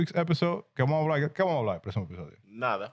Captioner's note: speaking In Foreign Language